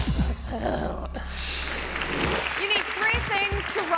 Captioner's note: hands clapping